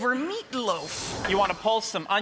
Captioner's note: whoosh